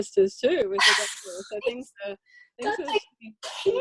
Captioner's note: scoffs